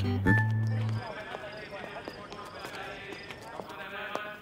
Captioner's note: Footsteps